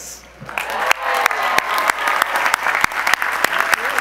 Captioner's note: audience applause